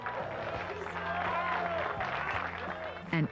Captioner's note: applause